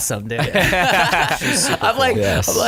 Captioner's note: laughter